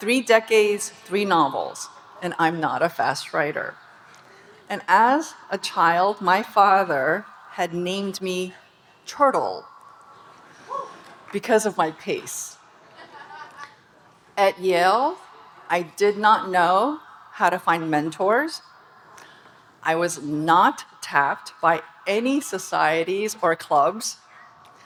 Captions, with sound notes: Three decades, three novels, and I'm not a fast writer. And as a child, my father had named me "Turtle", (audience cheering) because of my pace. (audience laughing) At Yale, I did not know how to find mentors, I was not tapped by any societies or clubs,